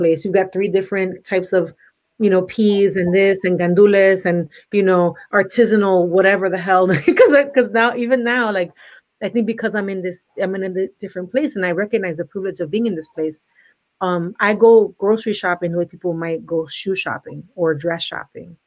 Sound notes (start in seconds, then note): 7.1 laughs